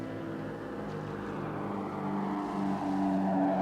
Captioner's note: airplane whooshing